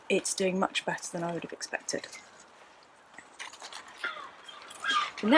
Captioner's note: seagull squawks